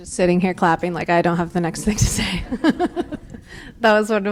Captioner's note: laughs